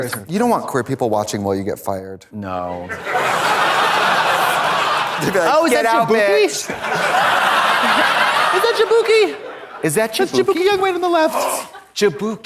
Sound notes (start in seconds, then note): 3.3 audience laughs; 7.5 audience laughs